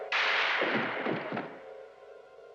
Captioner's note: silah sesleri; thudding